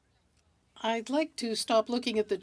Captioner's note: speaking french